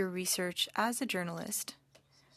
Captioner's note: speaking French